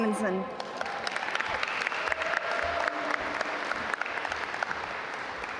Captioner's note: audience applaud